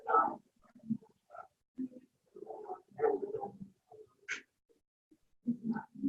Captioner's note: chatter